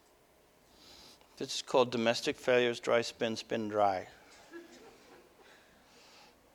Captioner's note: audience: Laughter